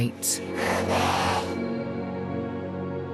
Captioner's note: demon rasping